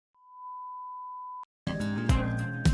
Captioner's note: high tone